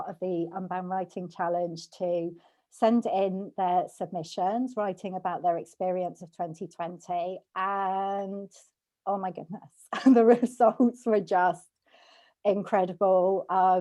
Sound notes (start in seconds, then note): 9.3 chuckles